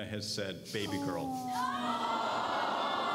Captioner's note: crowd aawwwwss aswell